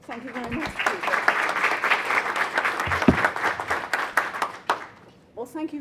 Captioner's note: audience applause